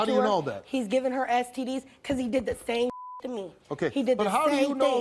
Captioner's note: beep